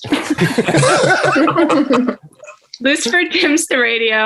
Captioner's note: everyone laughing